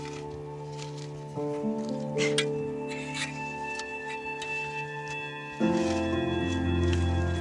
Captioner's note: shovel scraping; upbeat music